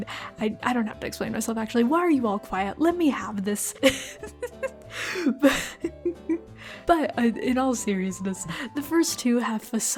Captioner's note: laugh